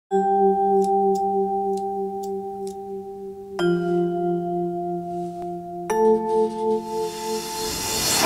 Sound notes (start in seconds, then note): 0.0 chime; 3.3 brushing; 3.5 chime; 6.0 brushing; 6.0 chime; 8.0 upbeat music